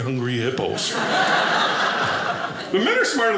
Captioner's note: audience laughing